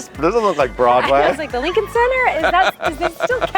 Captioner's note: laughing